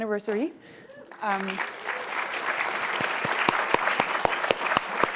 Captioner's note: applause